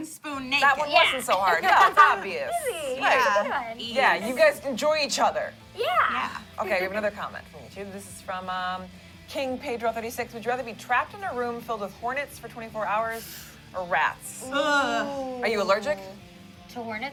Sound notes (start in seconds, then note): 1.4 laughter